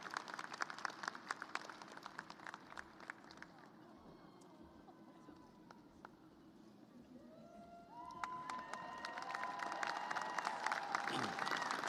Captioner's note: applause; cheers and applause